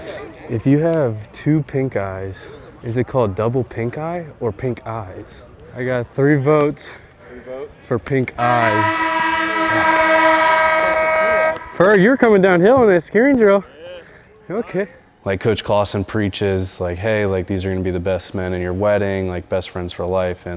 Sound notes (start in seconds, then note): 8.4 air horn